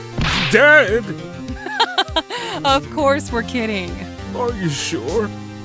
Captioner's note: laughs